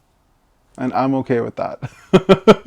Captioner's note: laughs